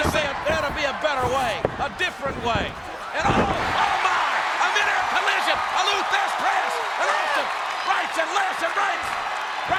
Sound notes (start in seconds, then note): 5.8 audience cheers